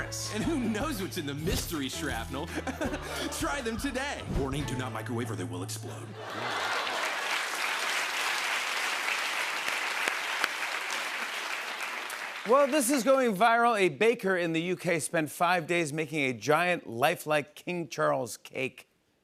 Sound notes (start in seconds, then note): 2.4 chuckles; 6.1 laughter; 8.2 applause